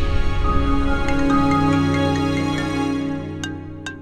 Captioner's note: Phone ringing